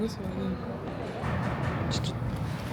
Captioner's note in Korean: 쾅쾅쾅